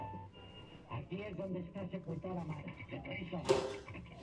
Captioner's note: spanish from TV